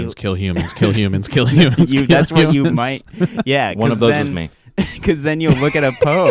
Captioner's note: laughs